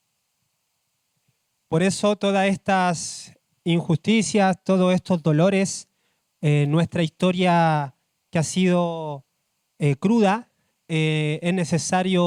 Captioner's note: speaking Spanish